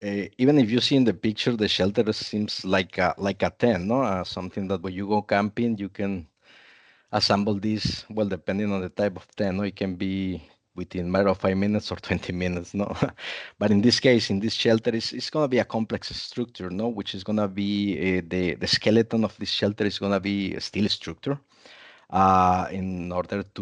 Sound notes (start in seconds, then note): 12.8 chuckles